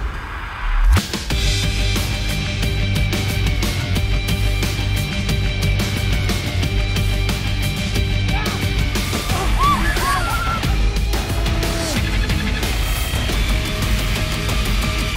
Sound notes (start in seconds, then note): 8.6 actor yelling; 9.1 audience screaming; 10.9 hard rock music